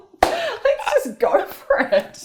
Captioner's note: laughter